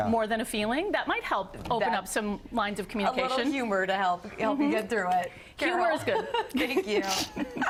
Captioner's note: laughter